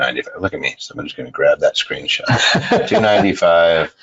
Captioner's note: laughs